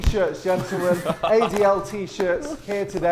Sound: Vikram laughing

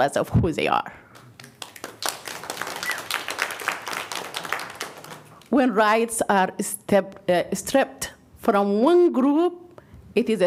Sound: applause

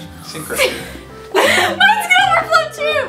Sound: gasp

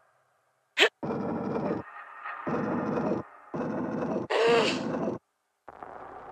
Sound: gruntings

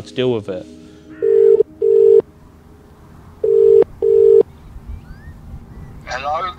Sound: phone ringing

